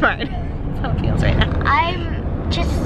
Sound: laughs

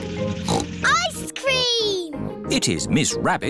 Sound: snorts

